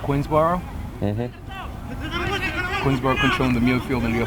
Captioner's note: players shouting